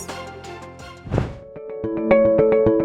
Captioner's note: air whooshing; upbeat music